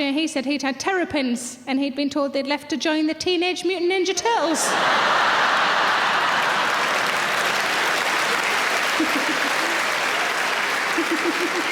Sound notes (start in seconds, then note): 4.5 laughing; 4.7 applause